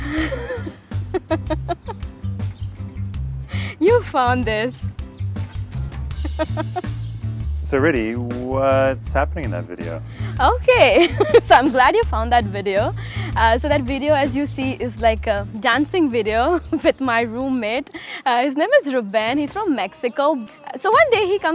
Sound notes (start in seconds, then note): 0.0 laughing; 6.1 chuckling